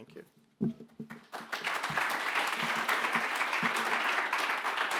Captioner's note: applause